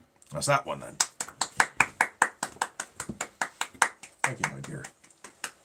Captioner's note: clapping